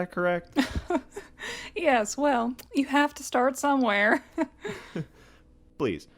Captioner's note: chuckles